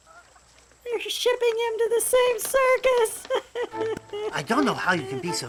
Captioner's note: 哭声